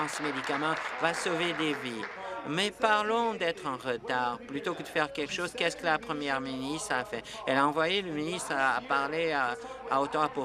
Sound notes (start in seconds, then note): 0.0 applause